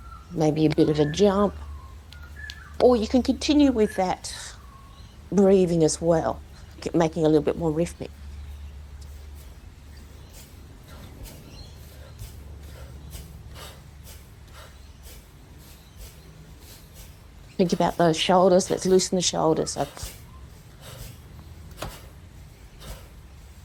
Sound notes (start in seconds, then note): 9.9 audible rhythmic inhalations & exhalations